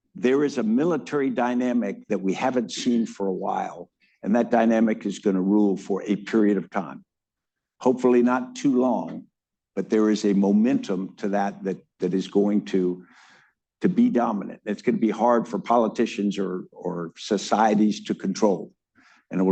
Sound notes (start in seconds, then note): none